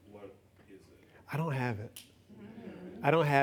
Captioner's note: laughs